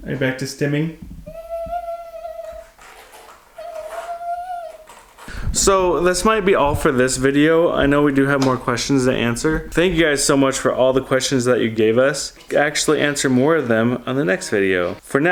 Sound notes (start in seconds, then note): 1.2 vocalizing